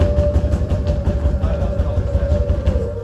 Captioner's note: pouding continues